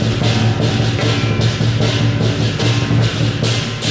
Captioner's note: none